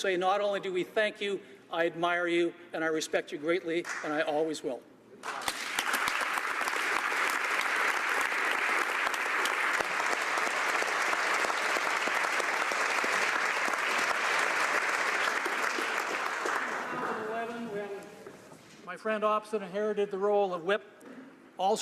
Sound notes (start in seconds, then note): 7.3 applause